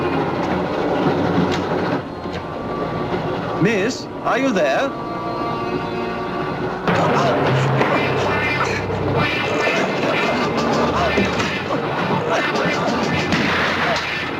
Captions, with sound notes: Miss, are you there? (Gunshot)